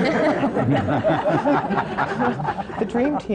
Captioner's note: laughter